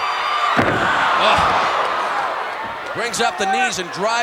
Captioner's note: audience cheering